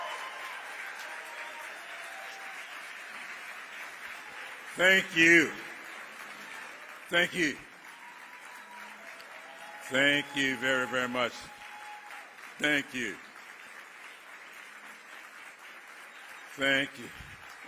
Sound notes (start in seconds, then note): 3.4 cheers and applause